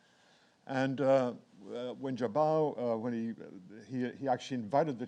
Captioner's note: speaks in foreign language